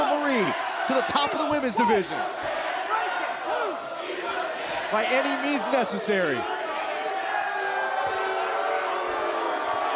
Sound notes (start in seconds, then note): 3.5 fans chanting; 8.8 cheers & boos